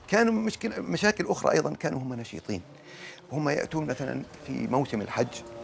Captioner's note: speaking in Arabic